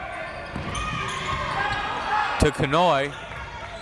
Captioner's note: crowd members shouting